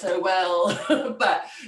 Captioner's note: laughs